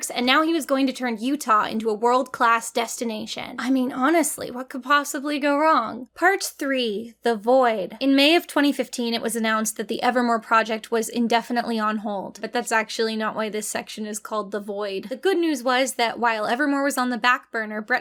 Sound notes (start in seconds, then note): none